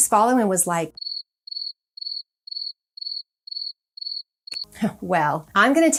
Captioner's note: crickets chirping